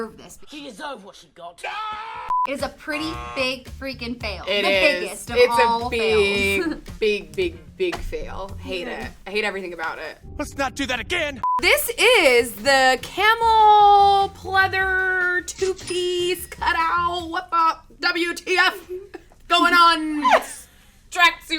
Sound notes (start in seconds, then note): 2.3 beep; 2.8 buzzer sounds; 11.4 beep; 15.4 cashier rings; 20.2 laughs